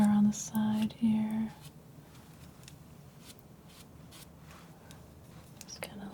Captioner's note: scratching